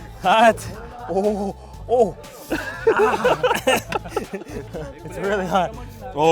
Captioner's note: laughing